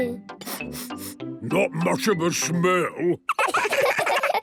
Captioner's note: sniffing; sniffs